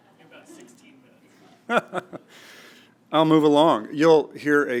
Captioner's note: laugh